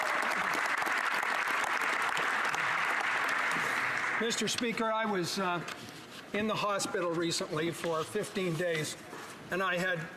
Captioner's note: applause